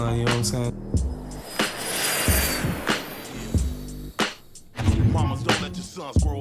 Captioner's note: jet engine roars